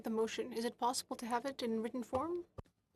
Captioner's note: speaking in French